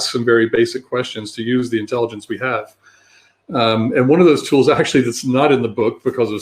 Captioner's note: erm